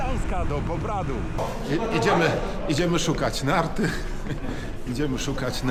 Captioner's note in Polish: śmiech